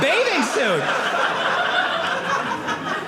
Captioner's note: audience laughing